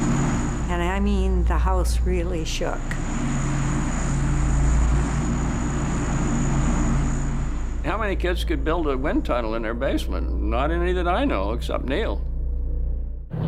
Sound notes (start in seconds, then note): 2.3 fan blowing loudly